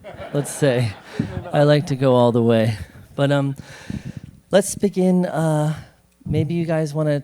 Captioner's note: laughter